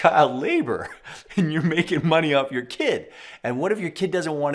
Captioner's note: laughs